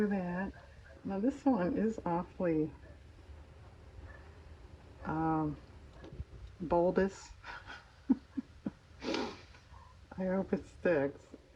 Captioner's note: laughs